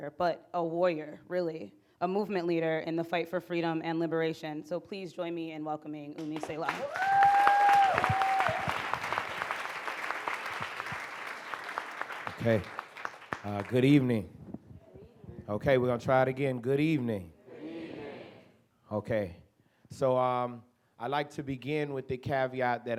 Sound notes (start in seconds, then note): 6.2 audience applauds